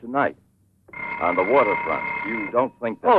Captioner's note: phone rings